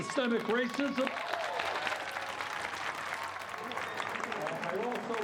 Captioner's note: clapping